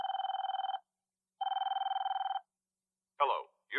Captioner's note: telephone rings